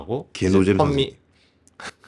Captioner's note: chuckles